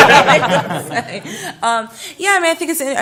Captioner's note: laughter